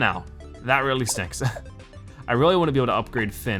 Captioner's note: chuckles